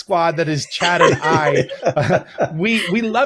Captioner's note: all laugh